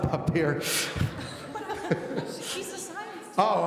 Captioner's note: laughing